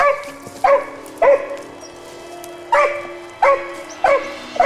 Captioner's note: dog barking